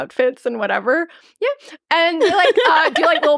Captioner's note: laughing